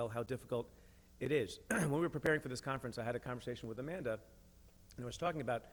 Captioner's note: clears throat